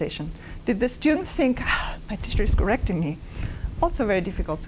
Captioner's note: gasps